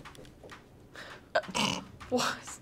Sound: laughs

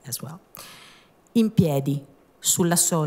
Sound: speaking italian

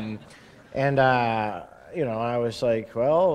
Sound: laughter

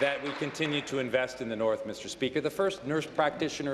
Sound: applause

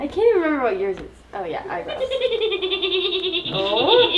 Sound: giggling

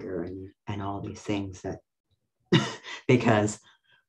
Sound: laughs

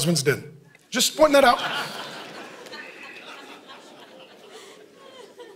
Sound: congregation laughing

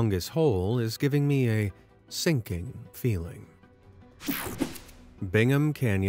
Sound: logo whooshing

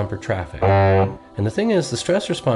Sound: car horn honk

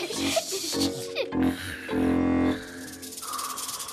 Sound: snoring; fake snake rattle

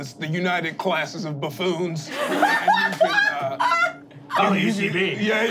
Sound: laughing

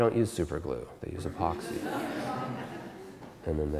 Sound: audience Laughter

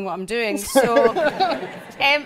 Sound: audience laughs

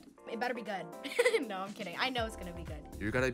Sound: laughs

